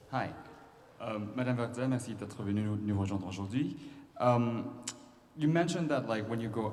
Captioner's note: speaking french